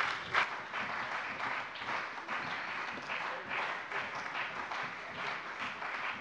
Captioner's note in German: Beifall bei der CDU und dem BÜNDNIS 90/DIE GRÜNEN